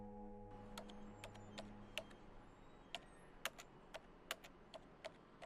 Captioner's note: computer keys clicking